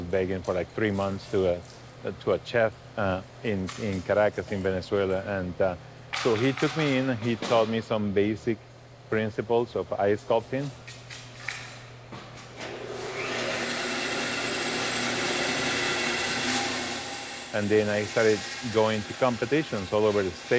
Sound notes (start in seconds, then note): 12.6 ice carving machine running